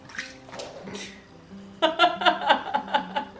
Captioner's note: laughs